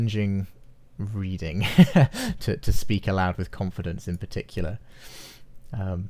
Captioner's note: laughs